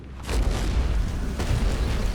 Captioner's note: thundering footsteps